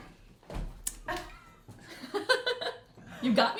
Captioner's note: riendo